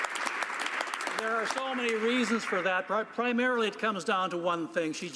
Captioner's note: applause